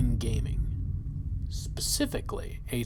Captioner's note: deep distant explosion